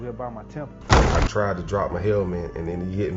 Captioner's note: helmets slamming together